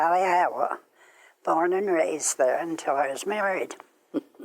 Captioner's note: laughs